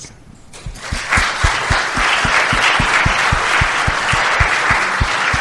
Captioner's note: applause